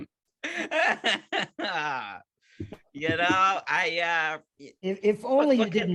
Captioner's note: laughing